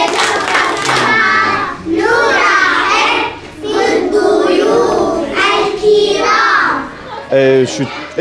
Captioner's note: Arabic